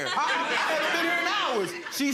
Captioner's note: audience laughing